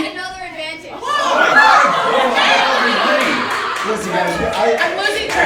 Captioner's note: audience laughing